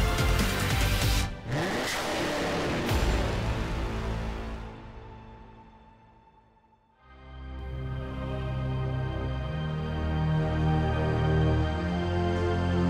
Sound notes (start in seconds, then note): 0.1 engine rev; 7.0 background music